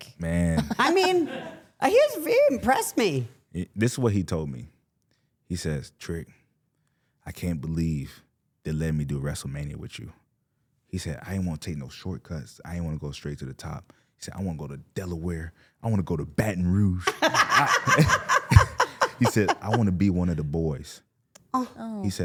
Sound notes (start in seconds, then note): 17.0 laughing; 17.0 laughs